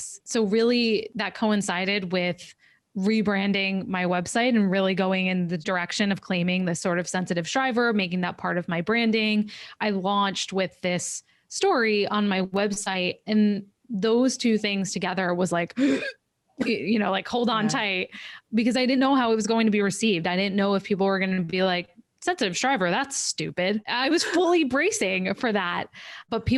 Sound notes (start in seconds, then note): 15.7 gasps